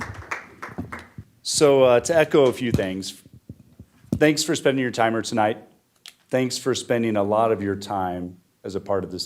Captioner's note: applause